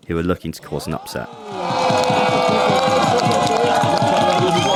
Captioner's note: applause